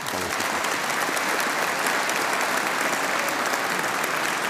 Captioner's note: audience applauding